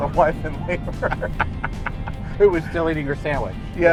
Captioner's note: laughing